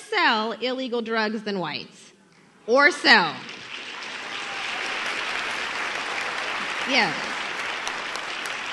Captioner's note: applause